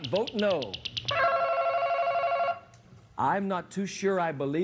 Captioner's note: ringing